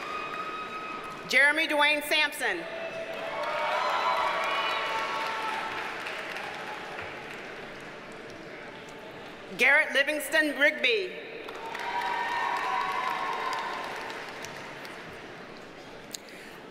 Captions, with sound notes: Jeremy Dewayne Sampson. (audience cheers and applauds) Garrett Livingston Rigby. (audience cheers and applauds)